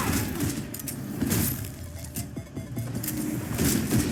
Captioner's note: gun shooting; gun cocks; gun shooting